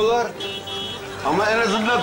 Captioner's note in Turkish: Korna sesi